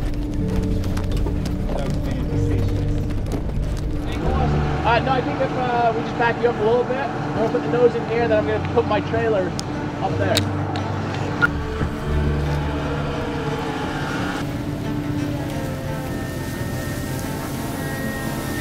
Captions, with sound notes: Just back up a little bit, I'm gonna put my trailer on that. (engine roaring)